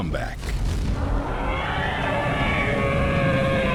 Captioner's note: mammoths call